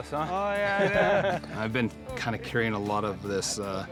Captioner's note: laughter